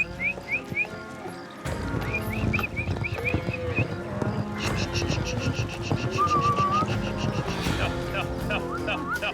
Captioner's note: whistling